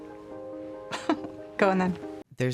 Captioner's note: chuckles